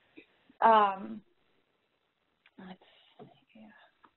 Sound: pause

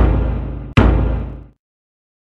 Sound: thump

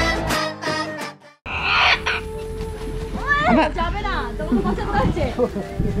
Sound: parrot Chirping

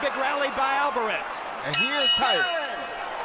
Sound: bell rings; crowd cheering

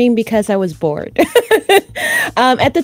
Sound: laughs

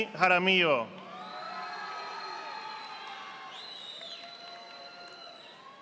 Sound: audience applauding

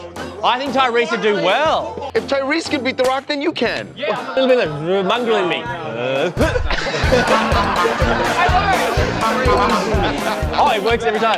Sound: laughter

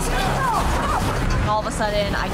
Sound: metal clanking

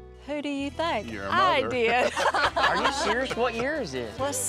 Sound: laughing

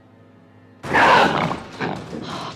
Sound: growling

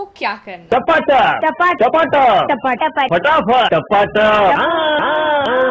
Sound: a cacophony of Tapataps

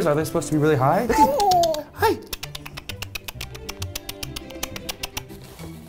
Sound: clicks tongue repeatedly

